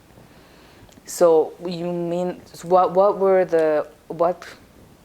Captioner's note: mumbling